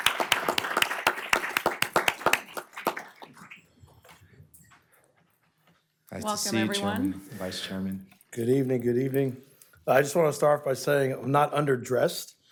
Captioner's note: applause